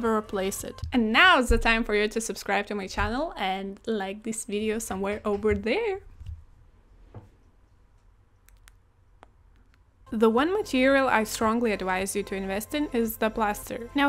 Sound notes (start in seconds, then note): 8.5 grosh saliva noises